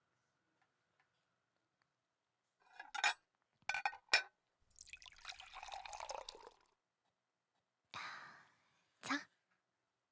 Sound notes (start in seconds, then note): 3.7 접시와 수저 부딪히는 소리; 4.7 그릇에 국물 따르는 소리